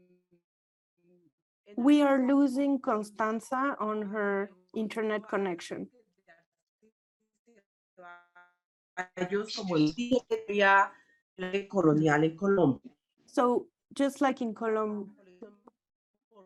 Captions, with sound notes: - We are losing Constanta on her internet connection. (mic breaks up)